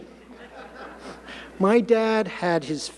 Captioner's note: audience laughing